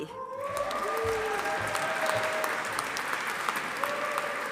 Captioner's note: audience applauding